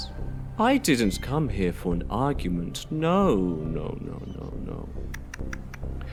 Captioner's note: tsks